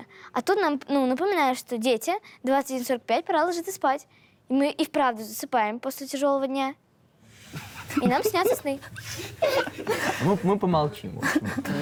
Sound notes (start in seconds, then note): 7.5 the boys giggling